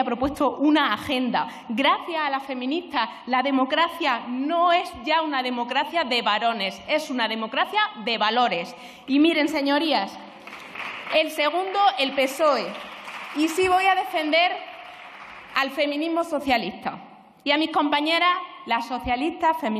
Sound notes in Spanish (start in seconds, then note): 10.2 Aplausos